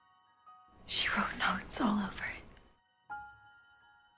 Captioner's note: voiceover